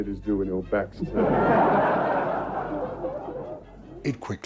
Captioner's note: audience laughs